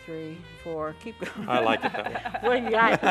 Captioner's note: all laughing